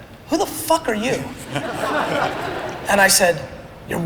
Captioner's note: audience laughter